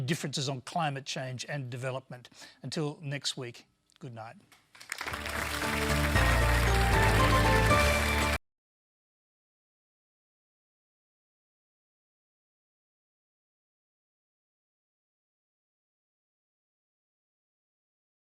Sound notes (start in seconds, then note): 4.6 applause